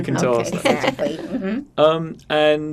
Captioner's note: laughing